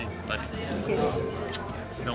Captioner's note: smooch